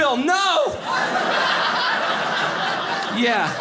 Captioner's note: audience laughing